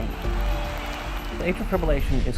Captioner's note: cheering